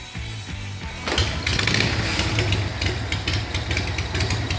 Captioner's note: engine revving